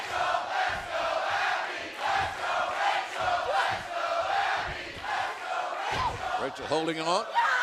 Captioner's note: fans chanting